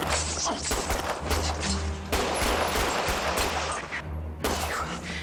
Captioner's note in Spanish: Disparos